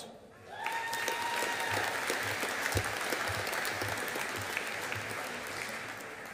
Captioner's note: audience applauding